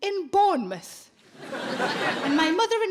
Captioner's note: audience laughing